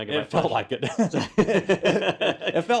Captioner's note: laugh